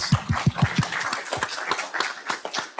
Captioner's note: audience claps